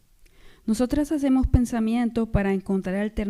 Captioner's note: speaking spanish